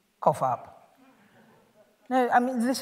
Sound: laughter

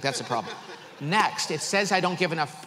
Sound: audience laughs

